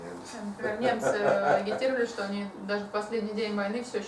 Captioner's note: hahaha